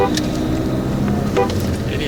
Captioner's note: car honking